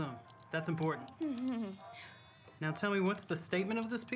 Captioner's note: faintly giggles